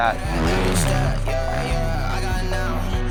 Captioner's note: engine revving